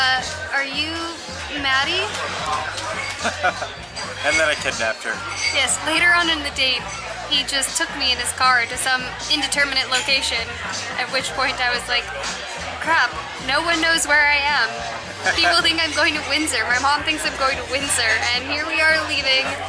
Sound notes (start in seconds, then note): 3.7 laughs